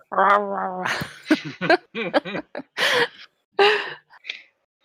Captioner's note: laughter